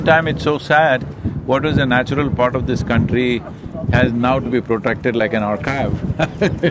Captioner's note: laughs